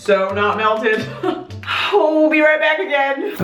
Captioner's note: laughing